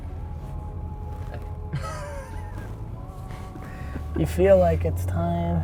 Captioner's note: laughs